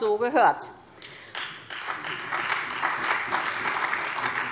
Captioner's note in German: Beifall SPD und Freie Demokraten